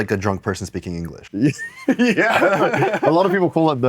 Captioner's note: laughs